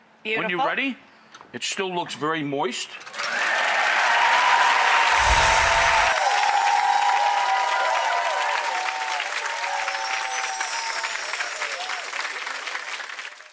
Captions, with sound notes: When you're ready it still looks very moist. (audience applause)